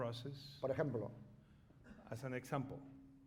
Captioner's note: speaking spanish